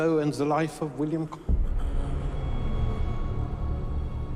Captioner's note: William breathes heavily